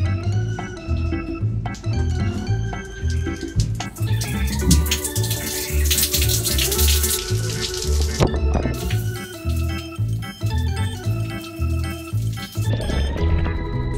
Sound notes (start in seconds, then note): 3.1 water trickling; 8.6 upbeat instrumental music